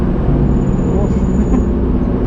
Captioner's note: chuckle